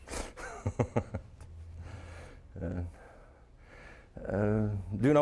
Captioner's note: chuckling